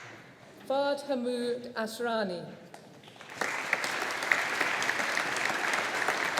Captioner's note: audience applauding